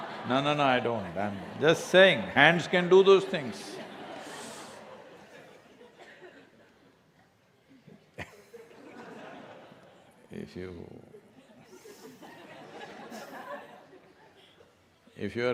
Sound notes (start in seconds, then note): 0.7 laughter; 10.9 laughter